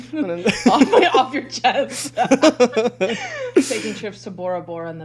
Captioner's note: both laughing